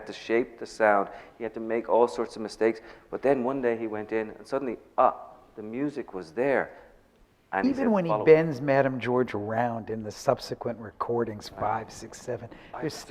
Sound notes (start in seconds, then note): none